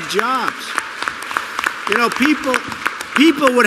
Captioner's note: applause